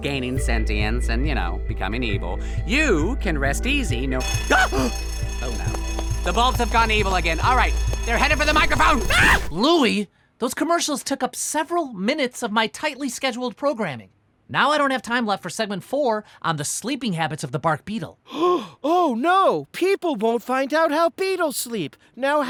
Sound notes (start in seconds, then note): 4.2 alarm sounds; 5.6 gasps; 8.9 screams; 18.3 gasps